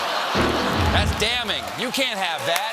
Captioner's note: laughter